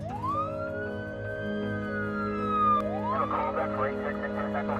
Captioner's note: siren blaring